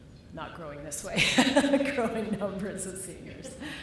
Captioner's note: laughter